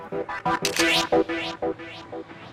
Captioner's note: camera clicks